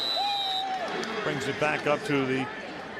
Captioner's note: whistle